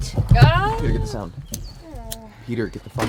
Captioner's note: clic de encendedor